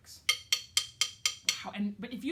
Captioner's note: clicks sticks together